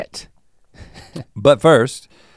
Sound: chuckles

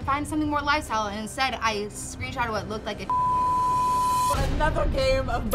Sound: beep

